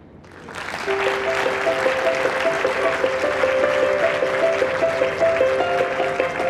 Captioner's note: audience applauding with gentle piano music